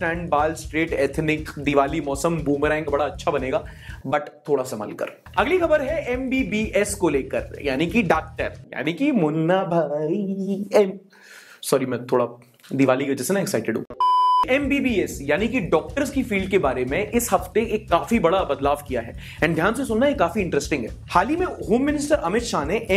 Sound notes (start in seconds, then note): 8.6 starts singing; 13.9 beep